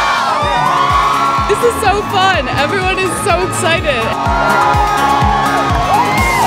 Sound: cheers

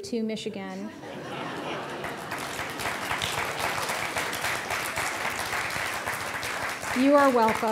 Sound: audience laughing; applause

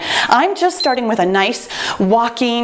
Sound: timer beeps

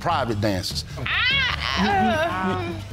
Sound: groans dramatically

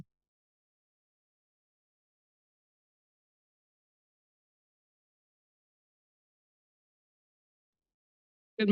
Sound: silence

